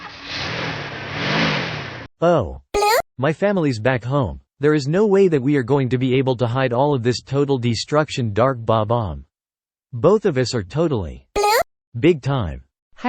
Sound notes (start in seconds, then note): 2.7 beep; 11.3 beep